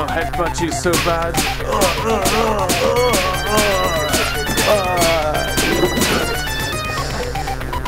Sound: gunshots

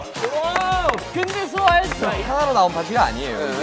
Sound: clap

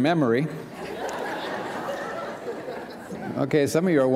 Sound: laughter

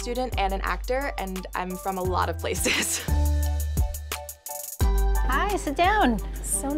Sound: laughs

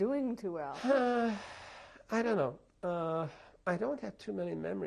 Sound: sighs

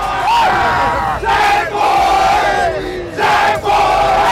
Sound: spirited chanting

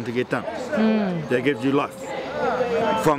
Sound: voiceover

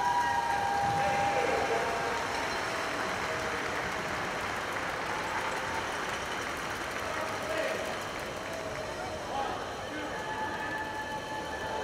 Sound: cheers and applause

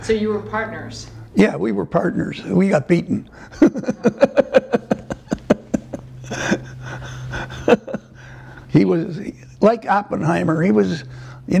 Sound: laughter

